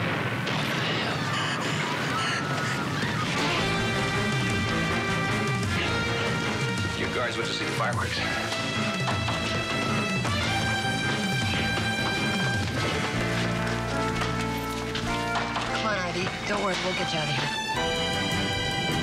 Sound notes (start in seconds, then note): 6.0 suspense music; 13.9 thumps